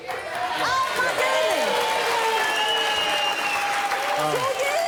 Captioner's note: cheering